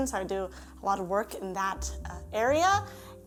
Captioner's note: none